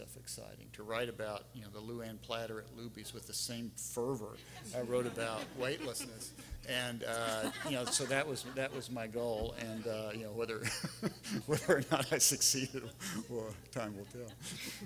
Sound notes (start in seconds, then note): 7.1 everyone laughing; 10.7 laughing